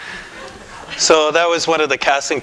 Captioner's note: laughter